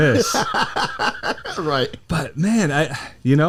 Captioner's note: laughs